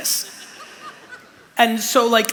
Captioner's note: laughter